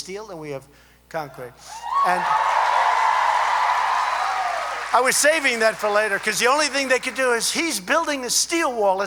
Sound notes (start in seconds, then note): 1.9 applause